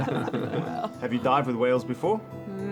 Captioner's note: all giggle